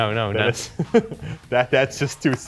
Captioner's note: laughs